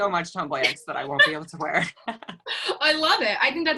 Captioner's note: laughs